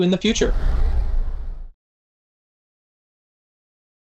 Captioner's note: sound effect